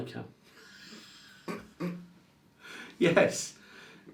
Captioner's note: both laughing